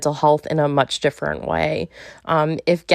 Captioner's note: none